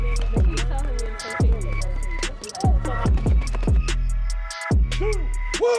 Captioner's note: muffled chatter in background